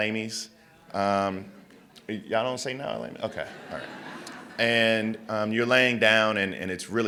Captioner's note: laughter